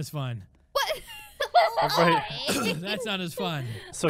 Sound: laughing

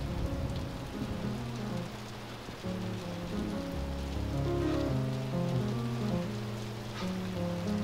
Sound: shivers

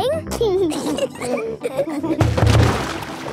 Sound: giggling

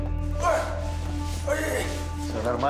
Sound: groans

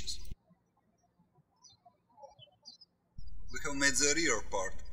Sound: birds chirping

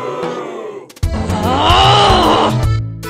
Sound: boos; growls

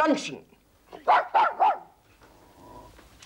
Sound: dog barks

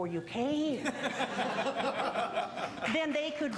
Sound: audience laughing

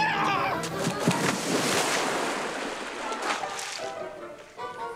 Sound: pool water splashes; playful music

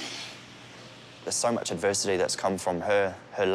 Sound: strains

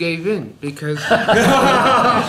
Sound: laughter

